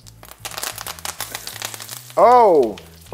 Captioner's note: oil sizzling